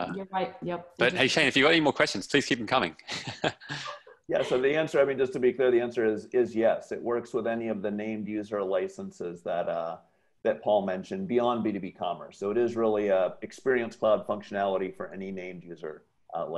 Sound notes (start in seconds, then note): 3.0 laugh